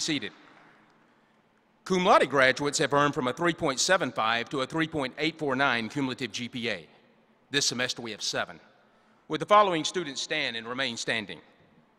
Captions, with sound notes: [ APPLAUSE ] >> PLEASE BE SEATED. CUM LAUDE GRADUATES HAVE EARNED FROM A 3.75 TO A 3.849 CUMULATIVE GPA.